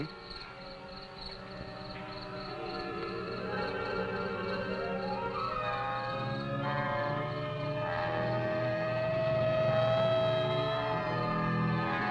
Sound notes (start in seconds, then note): 1.2 crickets chirping; 6.9 siren blaring